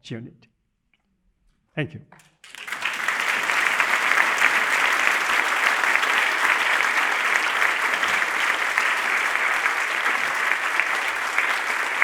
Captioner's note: applause